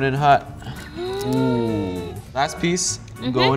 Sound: gasps

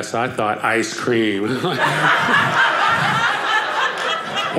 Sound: audience laughing

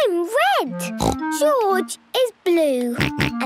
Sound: snorts; George snorts

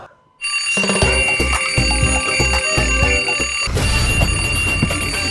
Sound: alarm ringing again

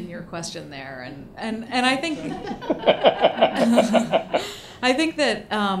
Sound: attendees laugh

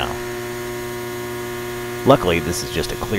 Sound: transformer humming

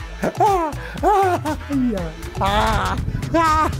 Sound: maniacal laughter

